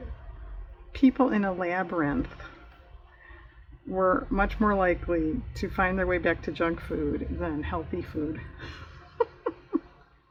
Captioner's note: laughs